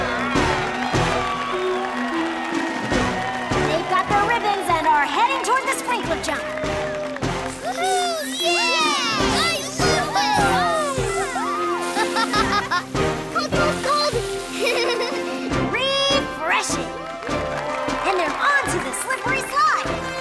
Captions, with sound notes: They've got their ribbons and are heading toward the sprinkler jump. Woohoo! Yeah! - I love this! - Woohoo! [laughing] Cold, cold, cold! Refreshing! And they're onto the slippery slide!